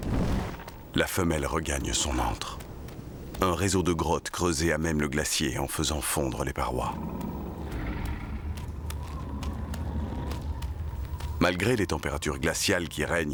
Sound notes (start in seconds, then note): 6.6 growling